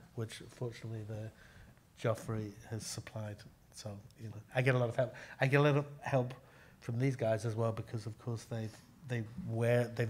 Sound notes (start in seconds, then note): none